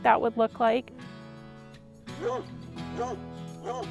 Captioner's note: dog barking